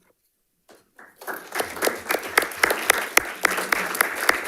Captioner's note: panelists applauding